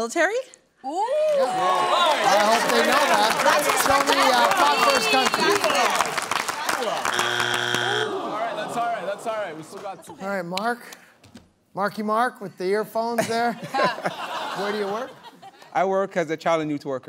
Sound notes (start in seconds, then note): 1.4 cheering; 7.0 buzzer sounds; 8.4 audience groans; 14.9 laughter